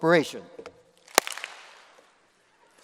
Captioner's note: applause